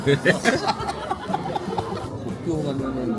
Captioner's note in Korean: 웃음